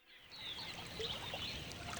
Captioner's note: birds chirping